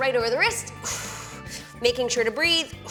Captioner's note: exhales